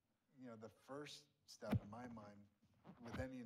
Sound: microphone thuds

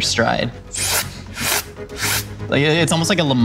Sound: sucking

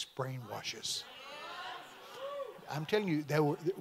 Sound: congregation amens

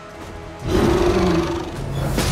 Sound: roars

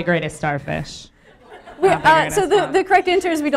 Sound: some laughter from the audience

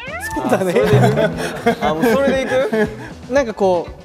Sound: haha

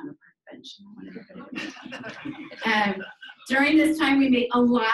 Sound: people laughing

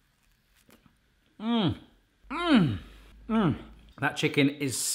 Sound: groaning

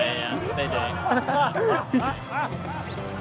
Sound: they laugh

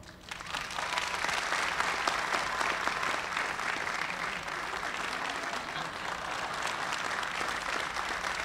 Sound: applause

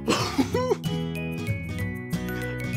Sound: laughing; cheerful music

